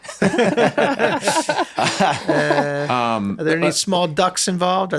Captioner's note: everyone laughs